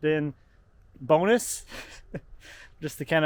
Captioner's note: laughs